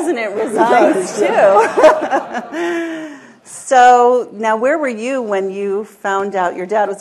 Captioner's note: laughter